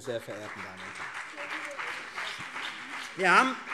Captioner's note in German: Beifall CDU und BÜNDNIS 90/DIE GRÜNEN